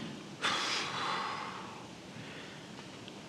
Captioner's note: sighing